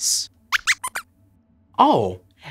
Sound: squeaks

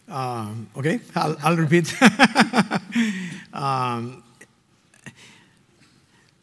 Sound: laughing

